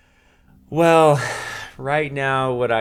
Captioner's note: chuckles